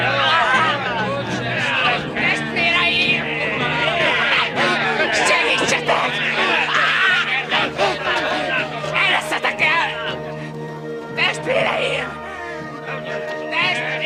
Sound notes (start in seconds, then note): 1.7 men speaking arabic